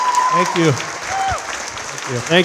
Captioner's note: audience cheering and clapping